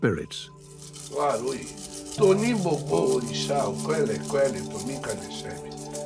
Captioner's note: speaks in Yoruba